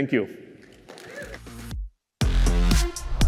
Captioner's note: cheers